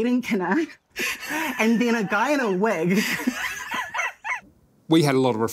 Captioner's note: laughing